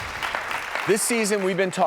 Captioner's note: audience clapping